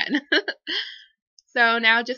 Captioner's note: laughs